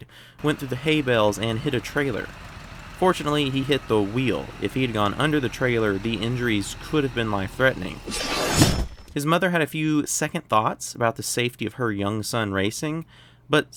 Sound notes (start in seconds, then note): 8.1 guillotine Impact Sound